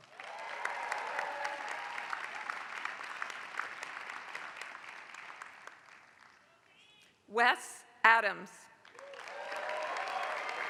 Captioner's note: applause; applause